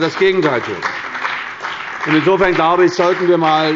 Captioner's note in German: Beifall bei der CDU und dem BÜNDNIS 90/DIE GRÜNEN